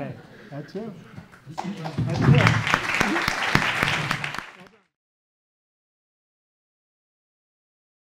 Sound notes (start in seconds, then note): 4.2 audience applauding